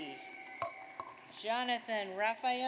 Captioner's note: audience applauds